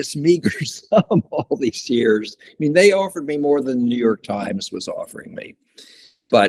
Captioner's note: laughs